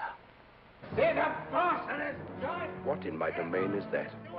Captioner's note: ominous music; Eddie shouts